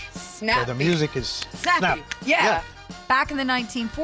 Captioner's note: snapping fingers